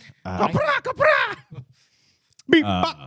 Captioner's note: speaking In Foreign Language